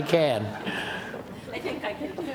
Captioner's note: laughter